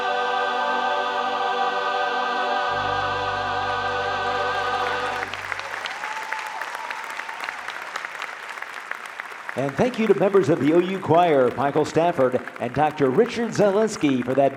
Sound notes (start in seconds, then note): 5.2 audience applauding